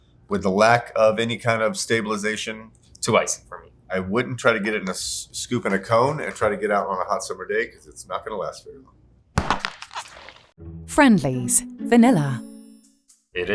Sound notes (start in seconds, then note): 9.4 tub thudding